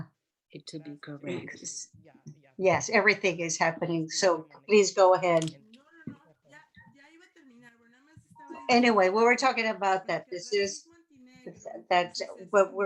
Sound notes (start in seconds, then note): 7.0 speaking spanish